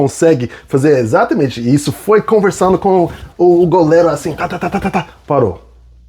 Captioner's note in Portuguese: risadas